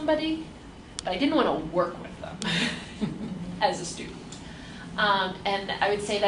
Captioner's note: laughs